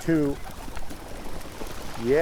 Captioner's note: birds splashing and making noise